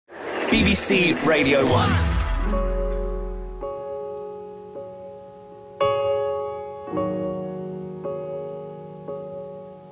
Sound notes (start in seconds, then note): 0.6 voiceover; 1.3 piano playing